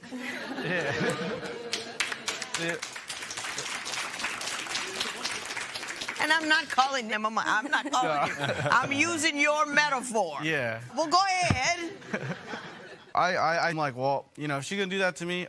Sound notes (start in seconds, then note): 0.0 laughter; 3.0 applause